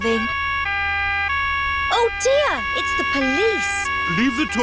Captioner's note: siren wailing